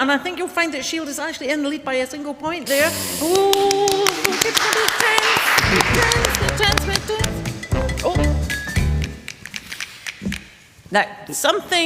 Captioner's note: applause